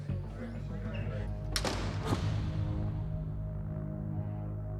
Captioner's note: slam